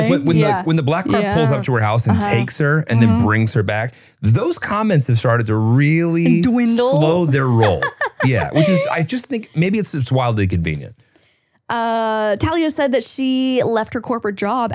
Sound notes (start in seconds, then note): 5.7 laughs